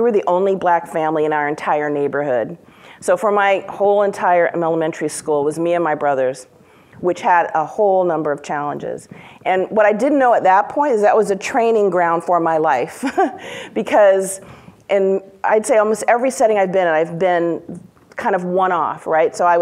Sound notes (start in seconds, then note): 13.4 laughs